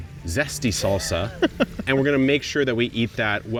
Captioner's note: chuckles